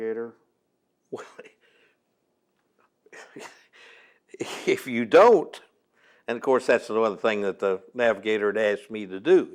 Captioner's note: laughs